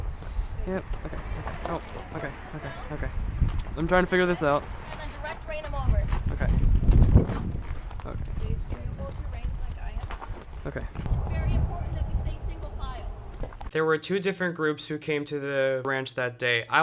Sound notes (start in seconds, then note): 13.8 voiceover